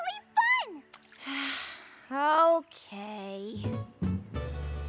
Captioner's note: sighs